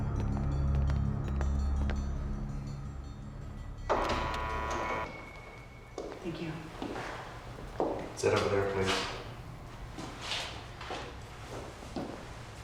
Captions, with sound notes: (buzzing) (door creaking) - Thank you. - Sit over there, please.